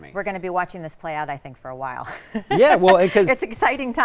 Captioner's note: laughs